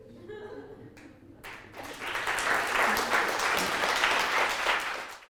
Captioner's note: audience applauds